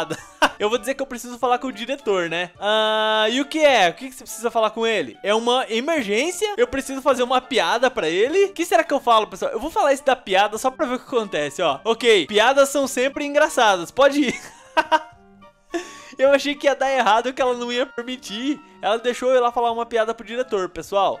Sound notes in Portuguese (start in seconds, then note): 0.0 risos; 14.2 risos